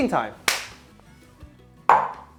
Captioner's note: claps